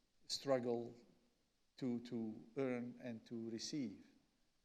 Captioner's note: none